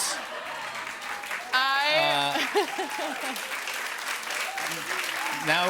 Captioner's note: applause